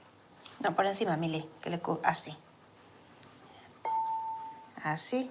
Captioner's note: speaking foreign language